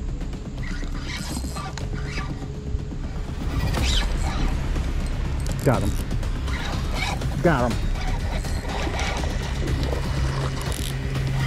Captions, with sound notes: Got em'. (reel zipping) Got em'!